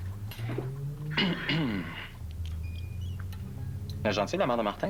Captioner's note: Toussotement